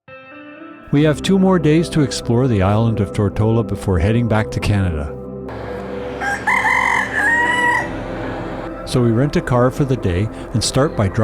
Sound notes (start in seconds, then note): 5.5 rooster crowing